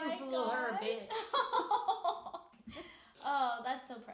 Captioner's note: laughing